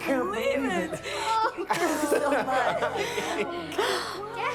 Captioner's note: laughing